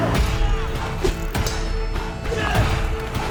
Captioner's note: swords clanging; dramatic music